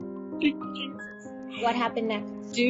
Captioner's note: sobs